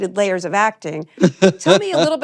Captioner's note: laughs